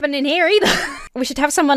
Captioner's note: laughs